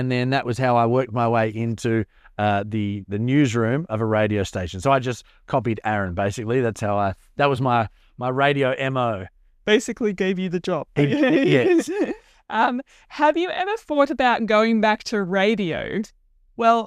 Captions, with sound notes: Then that was how I worked my way into the newsroom of a radio station. I just copied Aaron, basically. That was my radio MO. -Basically gave you the job. [chuckles] -Yes. -Have you ever thought about going back to radio?